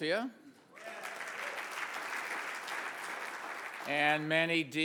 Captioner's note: audience cheers and applauds